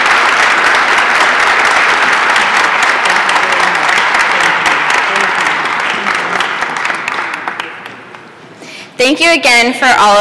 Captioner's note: applause